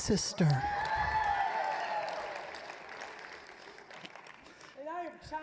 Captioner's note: applause, cheering